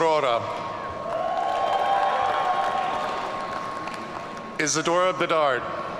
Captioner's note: audience cheering